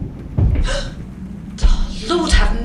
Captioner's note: heavy footsteps